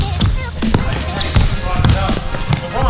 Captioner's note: ball bounces; murmurs; ball bounces; sneakers screech